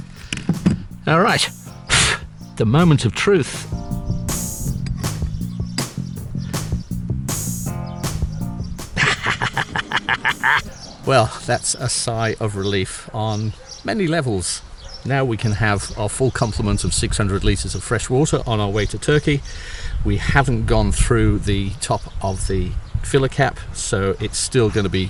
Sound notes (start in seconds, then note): 9.0 triumphant chuckles